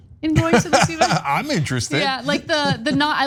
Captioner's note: laugh